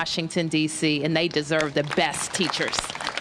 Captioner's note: applause